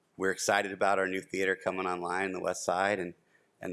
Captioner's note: none